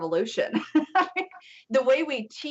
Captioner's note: laughs